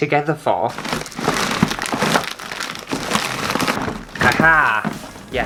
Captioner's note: rummaging Clatter